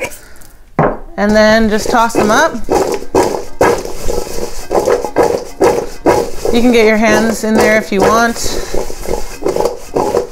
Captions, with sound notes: And then just toss them up. (Brussels sprouts hitting bowl) You can get your hands in there if you want.